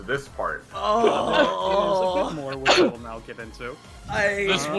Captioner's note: pained sounds